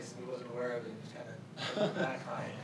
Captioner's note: Julian laughs